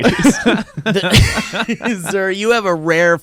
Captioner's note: laughs